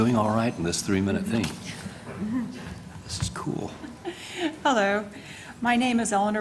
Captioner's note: laugh